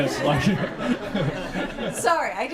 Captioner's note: laughter